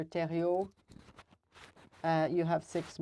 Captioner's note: speaking French